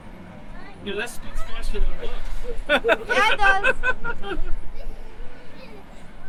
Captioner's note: laughing